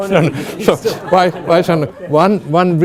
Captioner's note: audience laughing